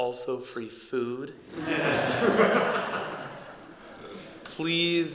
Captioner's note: laughter